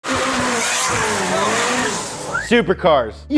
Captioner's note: car engine revving